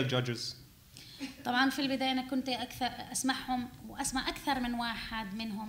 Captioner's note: speaking arabic